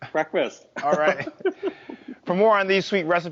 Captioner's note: laughing